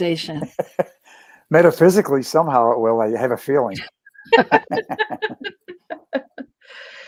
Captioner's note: laughter; laughter